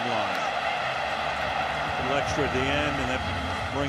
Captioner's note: cheering